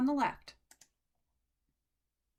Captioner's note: click